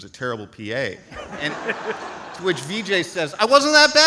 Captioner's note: audience laughs